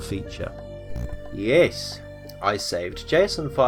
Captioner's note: small buzzer